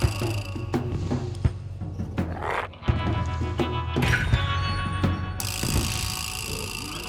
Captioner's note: intense music continues; Smelly growls